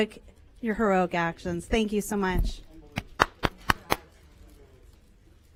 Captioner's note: applause